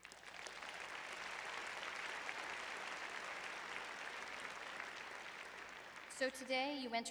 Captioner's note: audience applauding